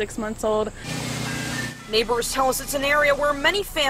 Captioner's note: sound of ice cream truck